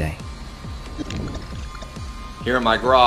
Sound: glitch sound effects

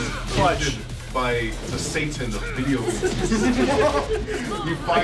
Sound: laugh

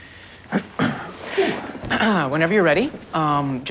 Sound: clearing throat

